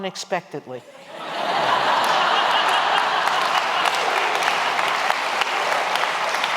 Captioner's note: laughter